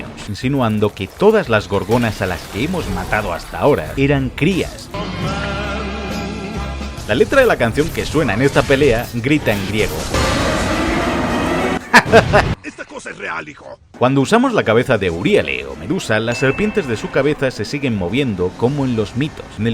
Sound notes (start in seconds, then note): 11.8 laughs